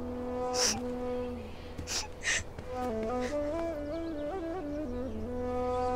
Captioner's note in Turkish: Ağlama sesleri